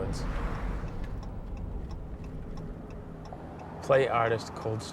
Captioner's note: car signal clicking